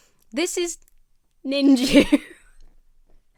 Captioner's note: laughs